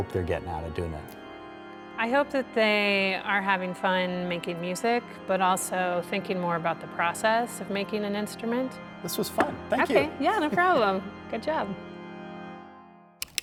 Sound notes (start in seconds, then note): 9.5 chuckling